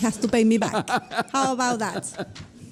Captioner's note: judge laughs